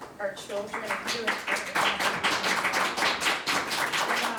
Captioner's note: all claps